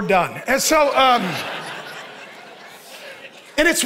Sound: congregation laughing

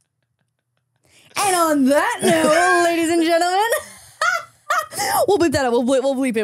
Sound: laughs

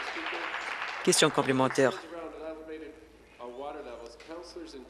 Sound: applause

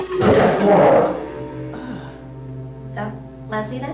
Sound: gorilla growls

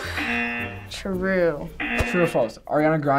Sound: buzzer rings

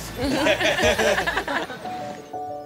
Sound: group laughs

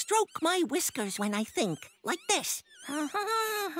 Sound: humming

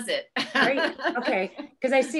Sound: laughs

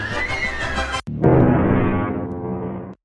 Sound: Funny Plucky Duck Sound

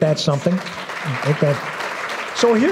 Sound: applause

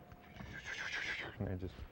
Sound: flying noise

